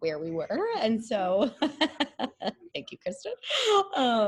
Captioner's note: laughs